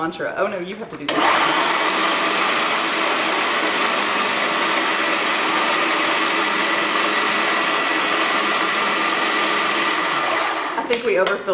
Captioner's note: loud food processor noise